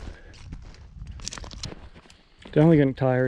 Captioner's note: breathing heavily; twigs cracking